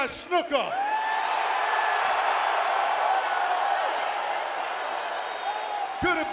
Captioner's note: applause